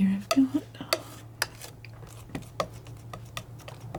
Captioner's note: tapping